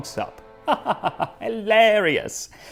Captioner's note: haughty laughter